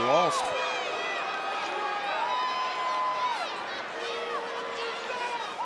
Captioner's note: crowd shouts and boos